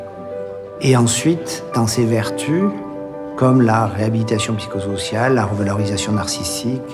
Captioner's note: speaking in foreign language continues